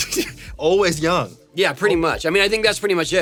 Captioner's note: laughs